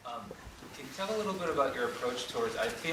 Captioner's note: voiceover